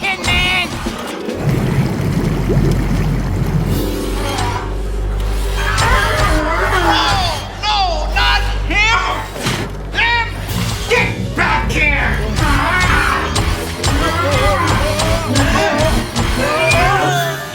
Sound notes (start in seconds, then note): 5.2 groans; 6.6 growling